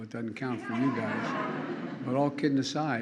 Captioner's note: laughter